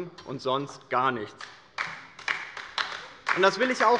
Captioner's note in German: Beifall bei der LINKEN